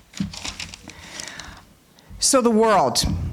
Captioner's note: paper rustling